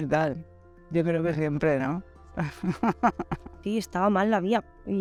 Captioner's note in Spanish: Se ríe